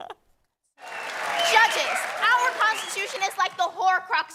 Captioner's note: applause